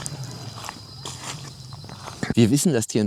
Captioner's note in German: schnauben